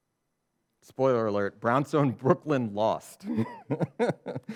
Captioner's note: laughs